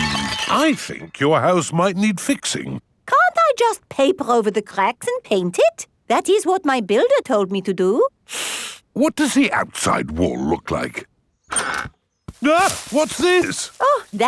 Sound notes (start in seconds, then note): 0.0 cracking; 8.3 inhales sharply; 12.4 exclaims